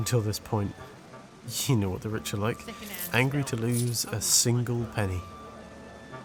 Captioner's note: coinpurse clanking